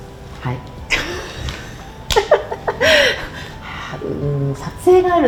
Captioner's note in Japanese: 笑い